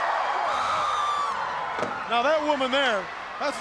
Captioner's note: crowd cheering; woman screaming